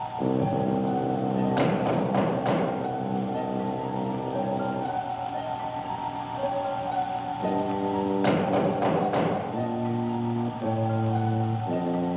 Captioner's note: knocking